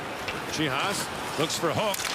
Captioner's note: crowd cheering